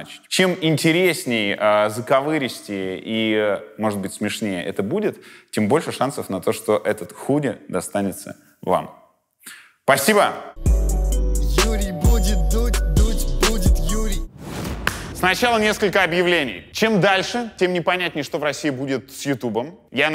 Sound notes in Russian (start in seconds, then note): 10.6 музыкальная заставка; 14.7 хлопок